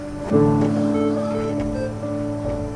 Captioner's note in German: Maschinenpiepsen